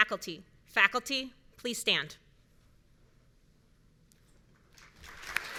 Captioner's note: audience cheering